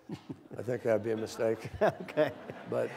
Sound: laughter

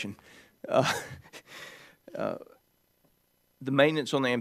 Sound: chuckling

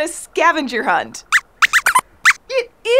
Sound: squeaks squeaks

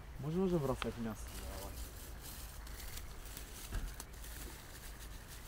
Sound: men speaking in foreign language

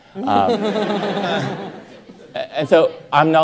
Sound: everyone laughing

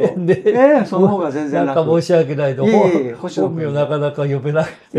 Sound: laughs

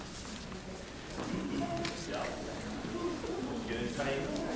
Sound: people chattering softly

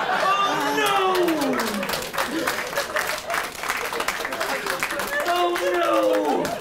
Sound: applause

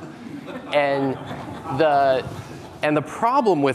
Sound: audience laughing

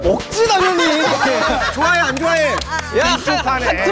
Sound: laughing

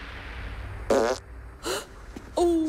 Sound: fart

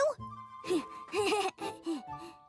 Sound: gasps; chuckles excitedly

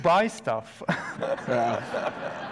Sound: audience laughs

